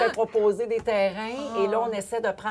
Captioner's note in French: cri de joie